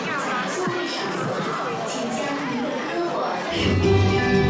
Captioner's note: announcer speaking in Chinese over speakers